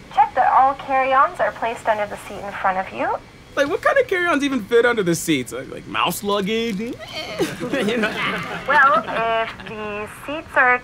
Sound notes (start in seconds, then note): 6.9 laughs